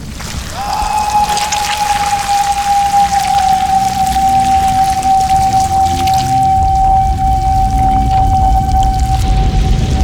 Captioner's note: awful, high-pitched wailing